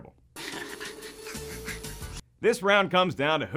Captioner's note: laughing